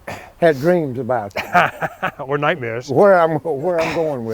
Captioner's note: laughs